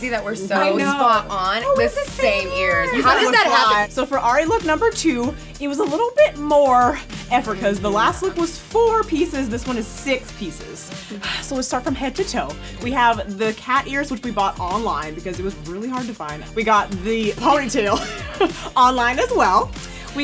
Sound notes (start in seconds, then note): 10.9 sighs; 17.9 laughs